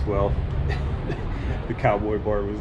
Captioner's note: laughs